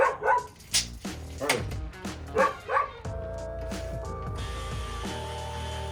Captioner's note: dog barking; dog barking; saw buzzing